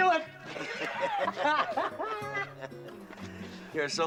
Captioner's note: Ambos ríen